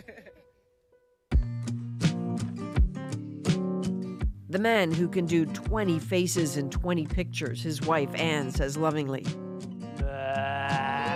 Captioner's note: laughter